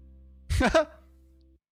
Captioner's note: chuckle